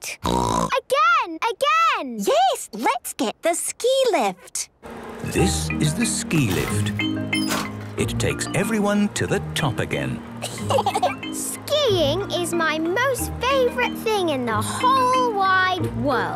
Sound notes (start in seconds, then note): 0.0 snorting; 10.4 laughter